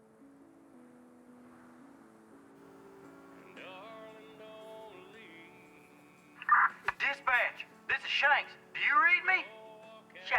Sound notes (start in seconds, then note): 6.4 police radio squawking